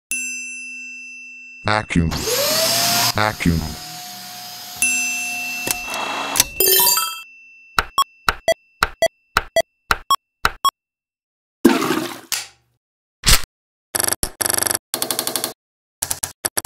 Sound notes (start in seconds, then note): 0.1 triangle ding; 2.1 vacuum cleaner noise; 7.8 knife hitting noises and beeps